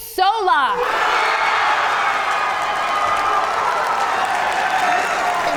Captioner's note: audience cheer and applaud